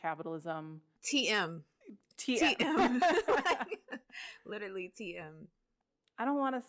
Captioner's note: laughter